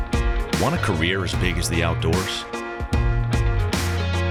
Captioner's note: upbeat rock music; voiceover; upbeat rock music